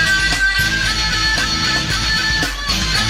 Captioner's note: none